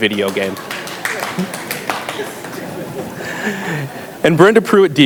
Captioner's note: audience applauds